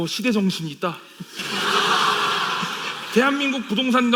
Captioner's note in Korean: 웃음